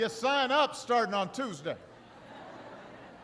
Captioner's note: laughter